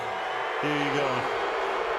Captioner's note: booing